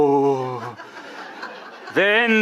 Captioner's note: audience laughing